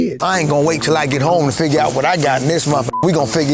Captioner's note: beep